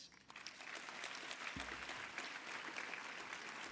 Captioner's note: applause